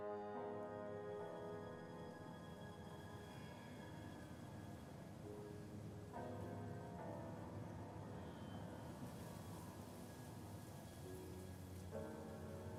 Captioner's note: silence, wind